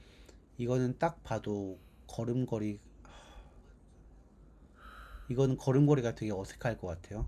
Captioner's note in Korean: 한숨